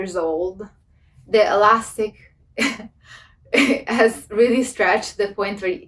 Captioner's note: laughs